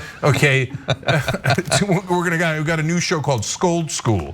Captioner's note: laugh